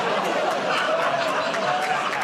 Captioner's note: audience "Oh"s